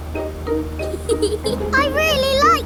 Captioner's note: george chuckling